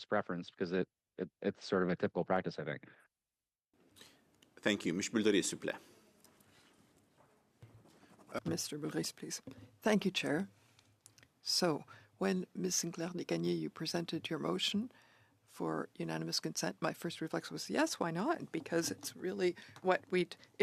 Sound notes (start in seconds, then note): 11.2 speaking French